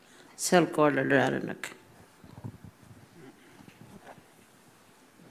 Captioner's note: speaking Anmatyerr